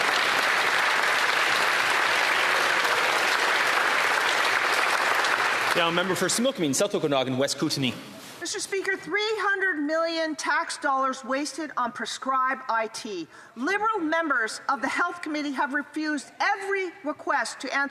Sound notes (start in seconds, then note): 3.2 applause